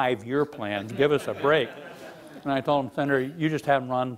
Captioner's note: laughing